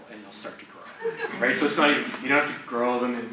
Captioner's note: audience laughs